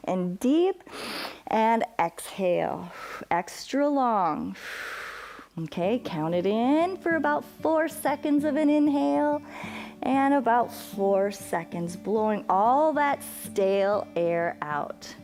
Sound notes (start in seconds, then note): 4.5 exhales